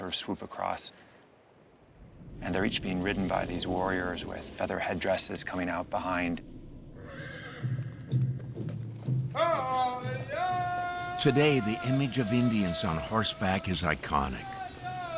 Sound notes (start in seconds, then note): 6.9 horse neighs; 8.5 man calling in Native language